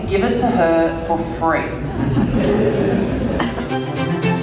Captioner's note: people laughing